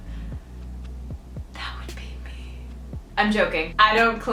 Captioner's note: whispers